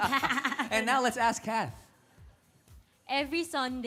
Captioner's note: laughter